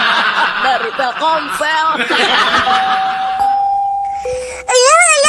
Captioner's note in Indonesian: tertawa